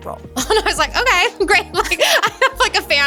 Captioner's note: laughs